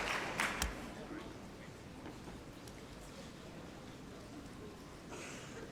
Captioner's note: applause